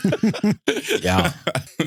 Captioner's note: both Laughing